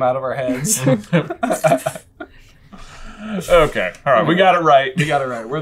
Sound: laughter

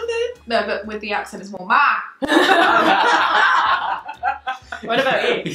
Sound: laughing

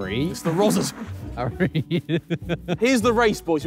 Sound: laughing

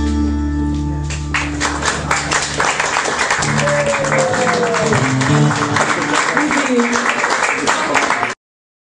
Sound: clapping

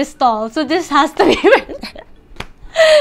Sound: chuckles

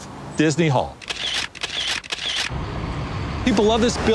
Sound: camera shutter clicking

